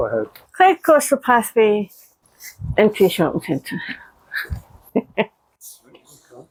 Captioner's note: laughter